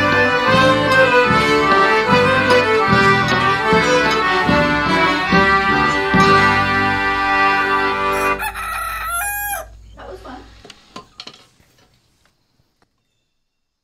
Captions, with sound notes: [Rooster crows] That was fun.